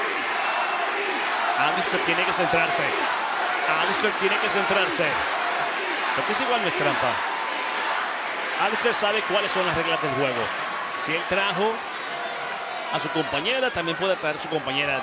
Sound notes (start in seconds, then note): 1.6 crowd cheering